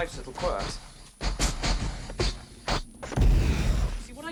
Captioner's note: popping